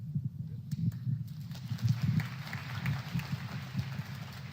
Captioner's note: applause